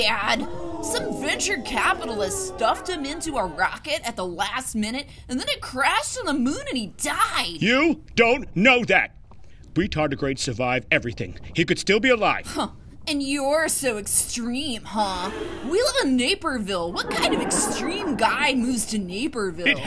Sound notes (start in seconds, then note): 15.1 studio audience gasp; 16.9 studio audience laughing